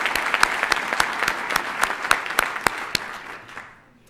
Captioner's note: applause